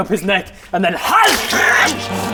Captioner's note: hyagggh